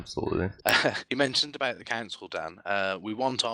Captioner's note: laughing